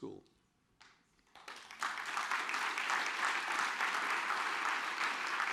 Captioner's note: audience applauds